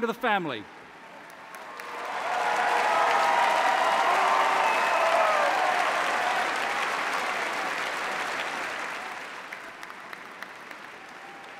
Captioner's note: cheers and applause